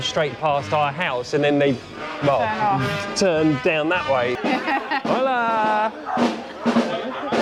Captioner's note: laughter